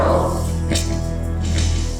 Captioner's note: electricity clicks and snaps; eerie music